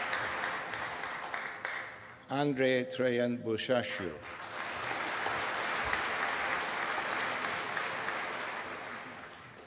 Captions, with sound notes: Andrei Traian Bursashiu. (APPLAUSE)